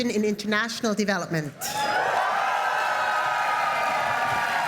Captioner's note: applause